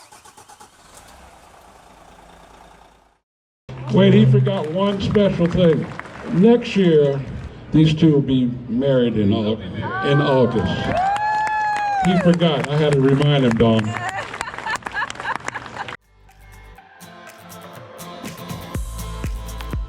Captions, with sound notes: (engine starting) - Wait, he forgot one special thing. Next year, these two will be married in August. (female screaming) He forgot, and I gotta remind him, Dawn. (female laughing) (upbeat music)